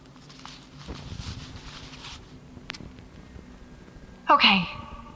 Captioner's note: fabric rustling